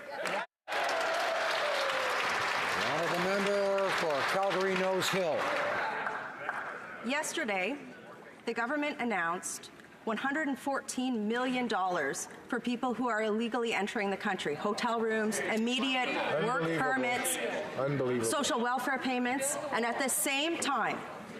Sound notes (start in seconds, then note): 3.9 some Applause